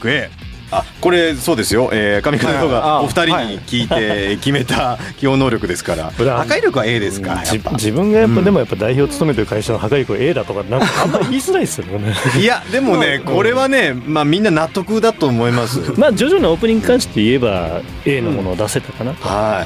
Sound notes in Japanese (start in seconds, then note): 10.6 笑い